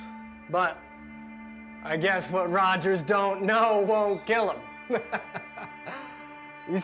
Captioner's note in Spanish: risas